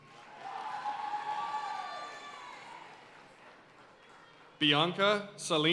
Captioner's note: audience cheering and applauding